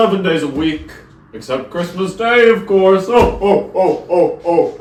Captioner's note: more Santa laughter